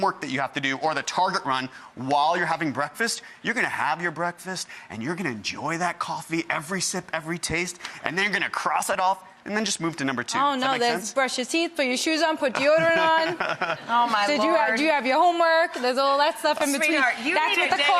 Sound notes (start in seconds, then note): 12.6 laughing